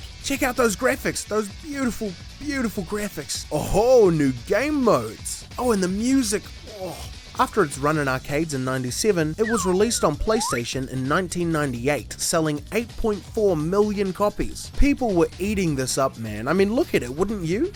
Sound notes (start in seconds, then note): 6.3 satisfied noises